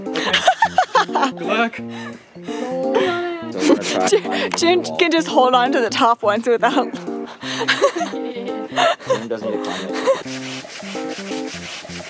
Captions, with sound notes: Ok. Good luck! [sad whine] Jun can just hold onto the top ones without climbing. He doesn't need to climb it.